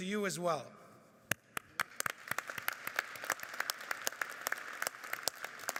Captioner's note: audience applauding